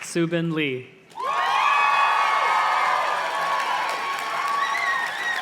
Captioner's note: audience cheers and claps